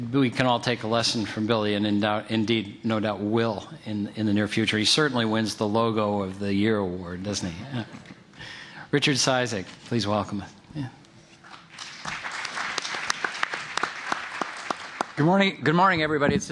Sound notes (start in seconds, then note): 11.5 applause